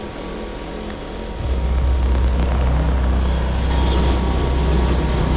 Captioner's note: strange electric noises